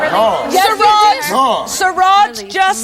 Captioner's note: yelling